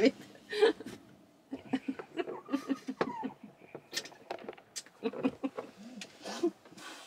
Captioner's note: laughs